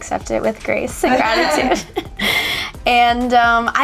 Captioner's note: laughing